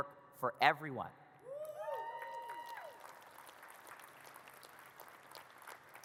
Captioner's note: audience cheers and claps